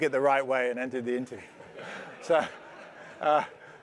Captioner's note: laugh